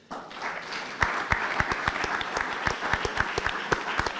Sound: audience applauding

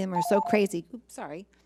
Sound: timer beeps

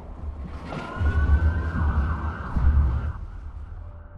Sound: sirens roaring

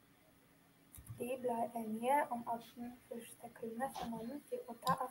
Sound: habla en noruego

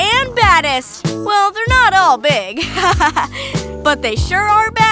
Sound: chuckles

